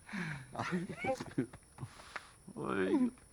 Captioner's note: Marisol sighs; Ramiro laughs